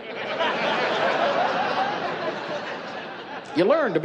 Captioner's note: laughing